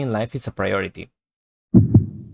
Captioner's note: heart beats